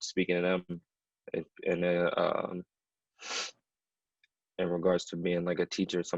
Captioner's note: sniffles